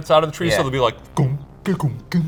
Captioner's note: mimics beats